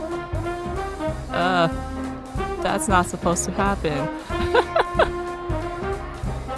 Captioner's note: laughs